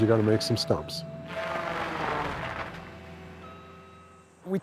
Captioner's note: tree saw cutting stump